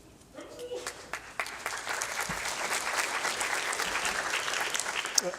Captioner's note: applause